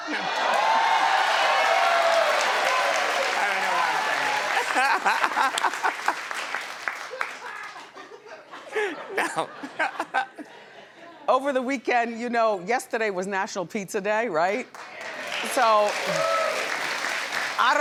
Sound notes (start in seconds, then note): 0.0 audience cheers; 4.5 laughs; 14.7 audience applauds